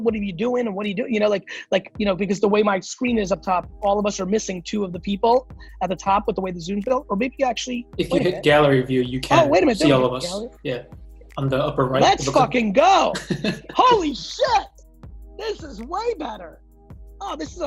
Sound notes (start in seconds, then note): 13.1 laughs